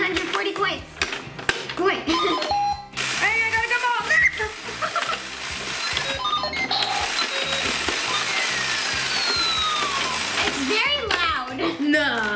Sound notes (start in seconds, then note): 5.2 pinball noises